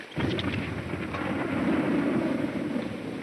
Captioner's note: bomb exploding